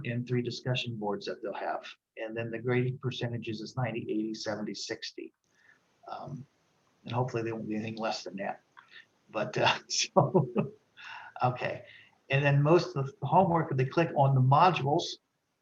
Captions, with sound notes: and three discussion boards that they'll have. And then the grading percentages is 90, 80, 70, 60. And hopefully, they won't be anything less than that, but so (chuckles) Okay. And then most of the homework, they click on the modules.